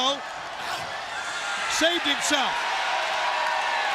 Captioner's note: crowd cheering